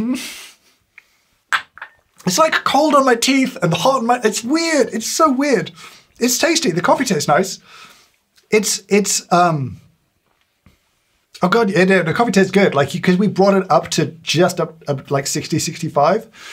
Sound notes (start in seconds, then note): 0.2 James chuckles; 1.5 cup thuds